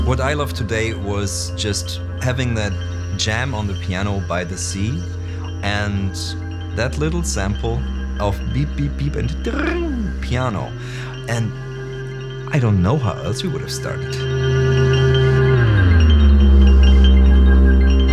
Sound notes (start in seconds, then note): 9.5 trilling